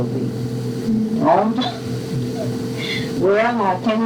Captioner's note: laughter